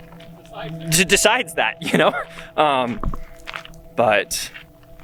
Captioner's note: chuckling